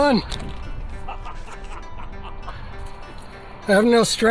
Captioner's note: laughing